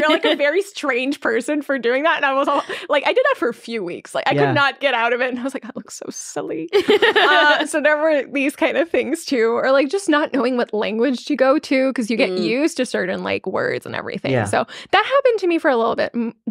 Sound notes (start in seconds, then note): 6.7 laughing